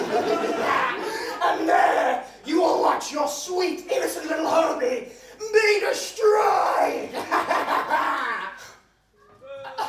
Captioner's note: evil laugh